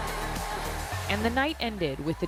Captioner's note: applause; cheering